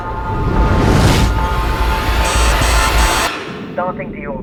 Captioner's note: tense music; air whooshing; alarms beeping